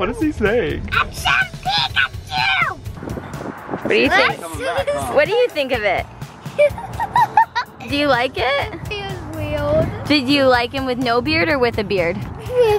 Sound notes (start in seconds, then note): 6.5 laughs loudly